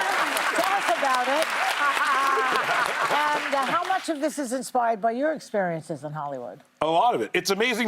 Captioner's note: laughter and applause